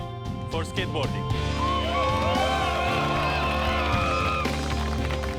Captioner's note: cheers and applause